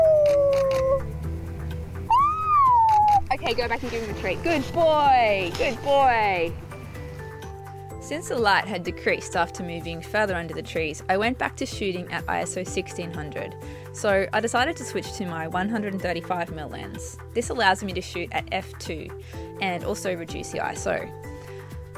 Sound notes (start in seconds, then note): 0.2 camera shuttering; 2.0 long howl noises; 2.8 camera shuttering